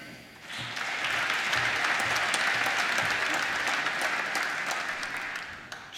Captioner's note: applause